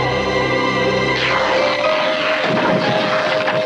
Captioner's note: canvas tears